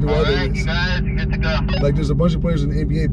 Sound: man On radio

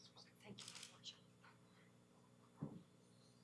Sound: camera shutter clicking

